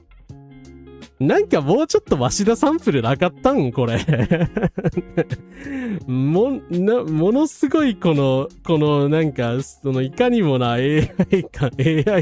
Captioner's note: laughs